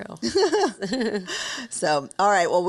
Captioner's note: both chuckling